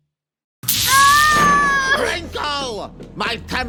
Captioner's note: Sheraka screams